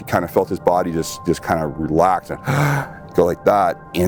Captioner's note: inhales deeply